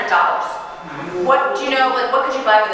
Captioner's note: audience gasping